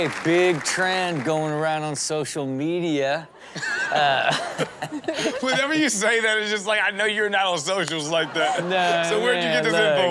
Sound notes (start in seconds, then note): 0.0 crowd applauds; 3.4 crowd laughs; 3.7 everyone laughs; 4.9 laughs; 7.9 crowd laughs